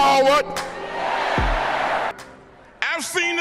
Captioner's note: crowd